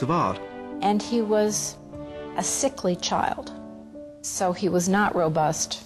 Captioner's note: voiceover